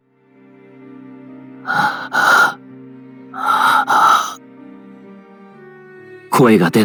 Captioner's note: panting